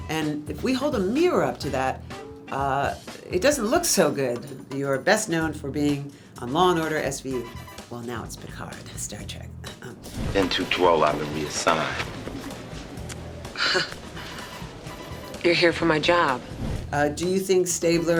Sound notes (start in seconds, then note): 10.1 air whooshing; 13.5 chuckles; 16.5 air whooshing